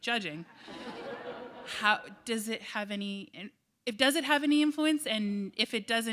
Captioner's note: laughter